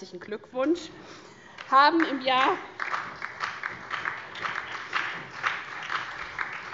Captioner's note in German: Heiterkeit und Beifall SPD, vereinzelt BÜNDNIS 90/DIE GRÜNEN und DIE LINKE